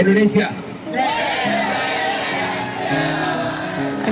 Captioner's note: crowd